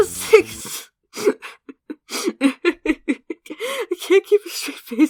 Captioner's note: giggling like a goofy goober